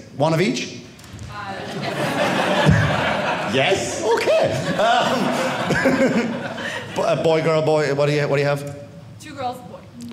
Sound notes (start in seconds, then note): 5.1 audience laughing